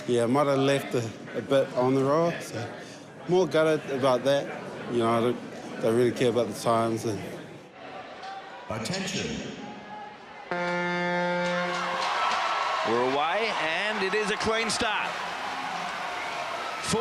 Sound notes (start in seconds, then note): 10.5 buzzer blares; 11.4 cheering, applause